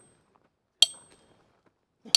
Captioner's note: clicking